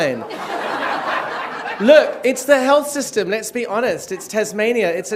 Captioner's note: laughter